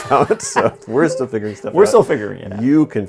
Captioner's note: laughing